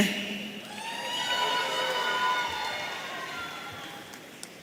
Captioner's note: audience cheering